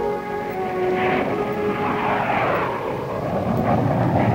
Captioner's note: light music; air whooshing